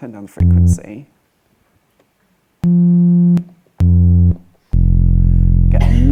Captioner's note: loud buzzing